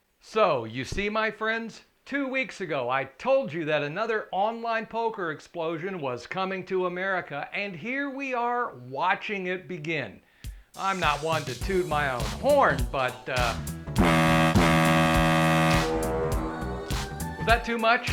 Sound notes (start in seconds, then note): 13.9 loud horn